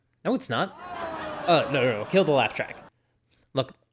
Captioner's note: canned laugher; laugh track cuts off abruptly